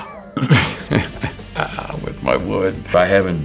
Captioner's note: Jeffrey chuckles